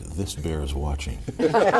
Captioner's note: laughter